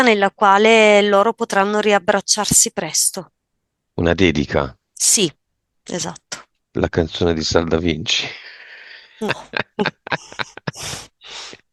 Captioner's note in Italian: risate